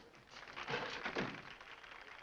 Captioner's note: door closes